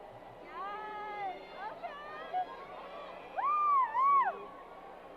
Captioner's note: crowd applause